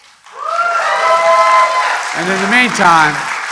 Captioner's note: applause